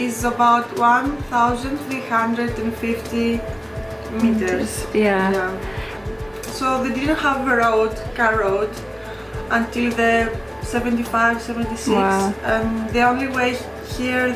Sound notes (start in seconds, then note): none